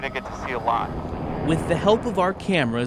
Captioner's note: helicopter blades whirring